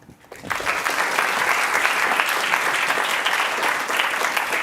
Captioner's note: applause